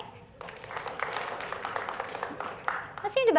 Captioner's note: clapping